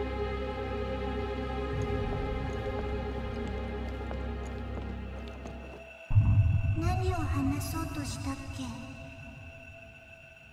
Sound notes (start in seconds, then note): 6.2 ghost murmurs